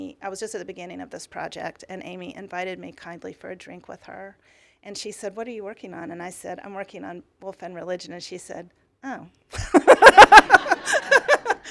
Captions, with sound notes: I was just at the beginning of this project, and Amy invited me kindly for a drink with her. And she said, what are you working on? And I said, I'm working on Woolf and religion. And she said, oh. [LAUGHTER]